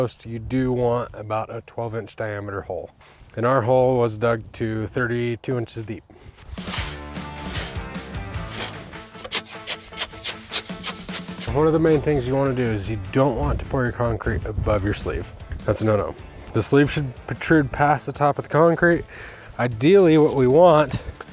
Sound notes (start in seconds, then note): 6.6 rock music; 8.3 shovel chopping concrete mix